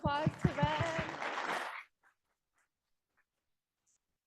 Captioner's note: audience clapping